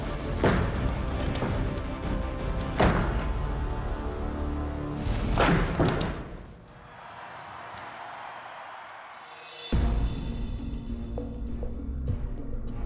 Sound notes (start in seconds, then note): 5.2 crowd cheering